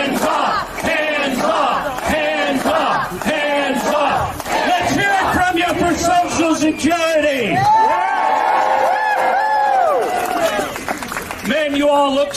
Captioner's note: chanting; cheering